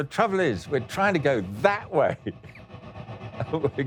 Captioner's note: laughing